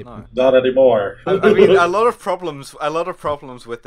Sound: laughter

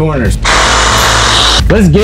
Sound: saw revving

